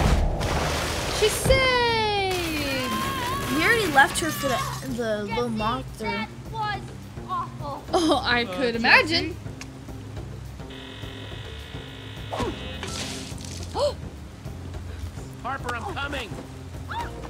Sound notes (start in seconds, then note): 0.0 crash; 10.7 robotic static; 12.3 punch; 12.8 splash; 14.0 Sabrina gasps